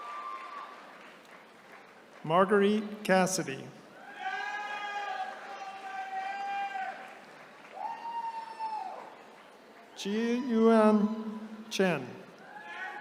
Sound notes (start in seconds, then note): 3.9 attendees cheering; 12.3 attendees cheering